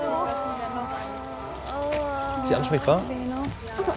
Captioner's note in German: jammert